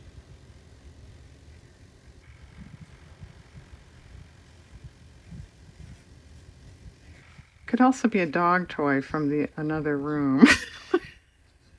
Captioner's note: laughs